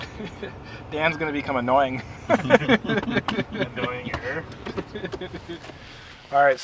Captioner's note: laughing